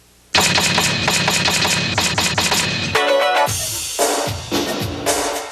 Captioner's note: typewriter clicking; upbeat music